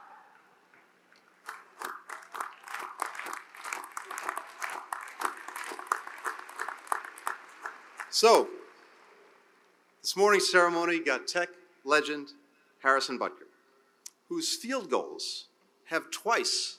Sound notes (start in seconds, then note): 5.2 applause